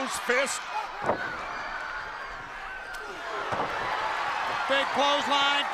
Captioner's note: crowd cheering